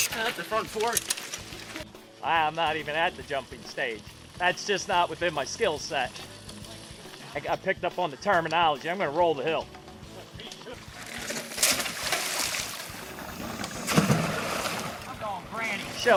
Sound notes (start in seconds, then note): 10.6 bike wheels spinning; 12.6 splashing